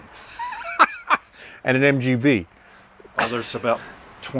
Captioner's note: laughs